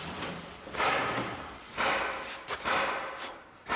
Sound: hammering in the background

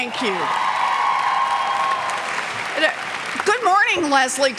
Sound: cheers and clapping

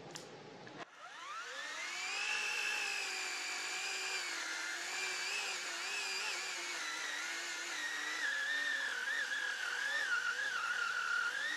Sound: chainsaw running

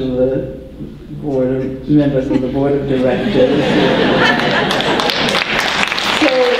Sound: applause

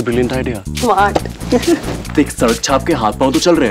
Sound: chuckles

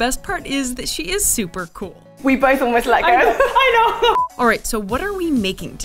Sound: laughter

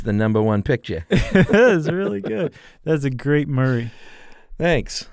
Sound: chuckling

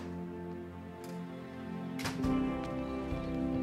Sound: door opens, closes

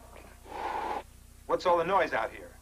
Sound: samson hisses

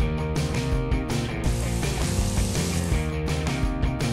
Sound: sizzling

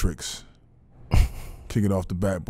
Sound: laughing

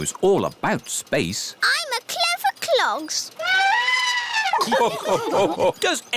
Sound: trumpets; all laugh

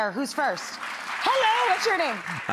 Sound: audience clapping

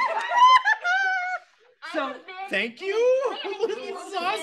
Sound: laughs excitedly

